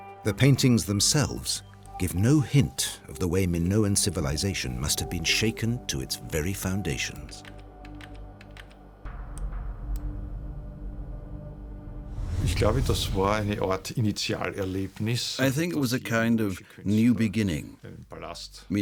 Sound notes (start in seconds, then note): 13.1 speaking German